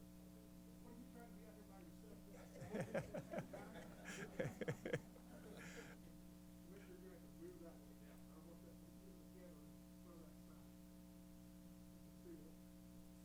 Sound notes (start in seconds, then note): 2.4 laughter